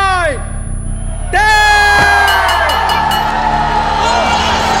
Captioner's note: Bell ringing; All cheering